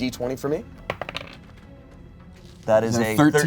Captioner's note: die rolls